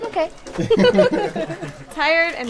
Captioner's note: laughing